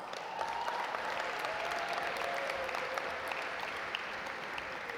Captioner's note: audience applaud